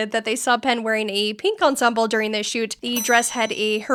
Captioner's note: ding